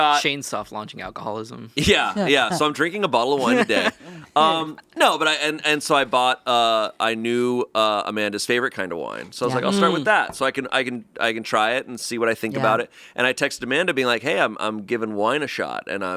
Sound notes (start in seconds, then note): 3.3 chuckling